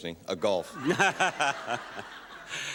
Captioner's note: Bob chuckles, audience laughs